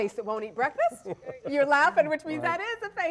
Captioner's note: laughter